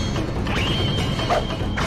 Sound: sword clashing; shiny sound

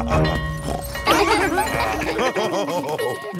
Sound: school bell ringing; both laughing; daddy pig snorts; children laughing; daddy pig laughing

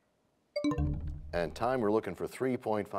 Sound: bell chimes, time expires

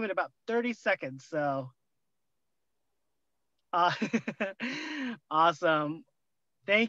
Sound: laughter

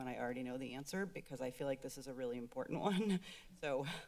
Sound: chuckles

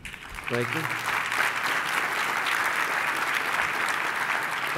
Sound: clapping

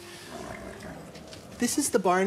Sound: horses nicker

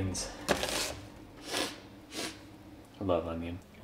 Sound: sniff sniff

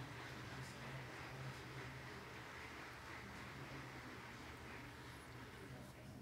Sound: applause

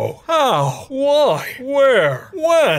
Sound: none

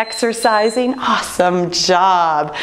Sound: timer beeping

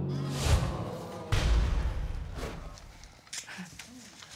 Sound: audience groans

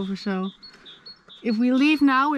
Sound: none

